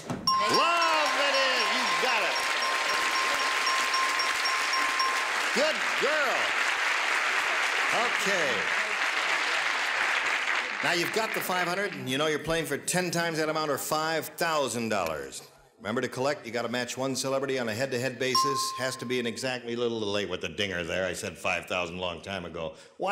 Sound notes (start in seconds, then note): 0.2 dinging; 2.9 applause; 18.3 ding